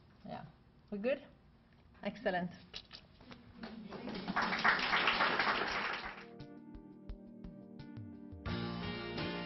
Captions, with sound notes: Yeah, we're good? Excellent. (audience clapping) (gentle music)